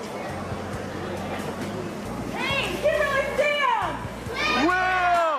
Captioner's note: ambient chatter continues